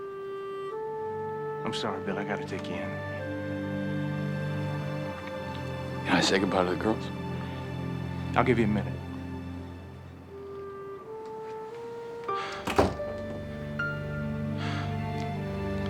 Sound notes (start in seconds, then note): 11.2 door closes